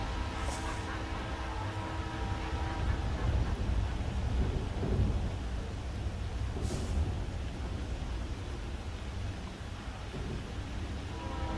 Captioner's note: rain & thunder; train horn in the distance